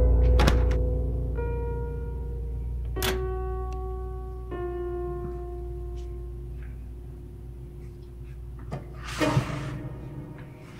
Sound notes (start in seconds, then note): 3.0 microwave door opens